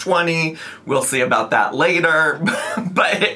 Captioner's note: laughs